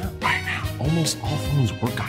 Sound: whispering

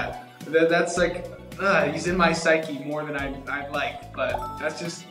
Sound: groans

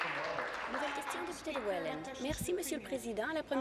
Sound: applause

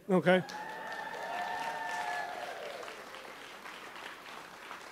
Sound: audience applauds

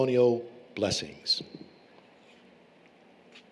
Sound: foreign Language

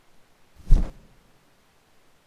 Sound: whoosh

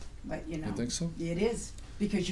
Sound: voiceover

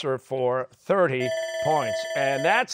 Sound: bell ringing

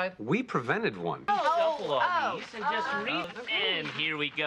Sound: gentle arguing and going Ohs

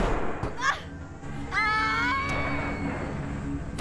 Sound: screams

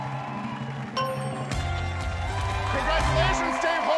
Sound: bell dings

